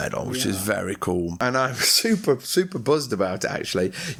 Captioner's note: in an excited tone